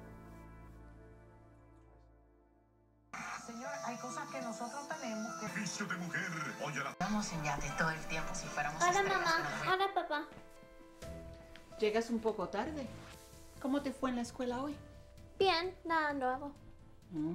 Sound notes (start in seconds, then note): 3.2 tv in background